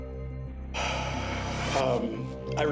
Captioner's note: sighs